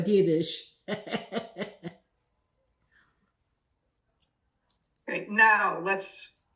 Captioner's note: laughing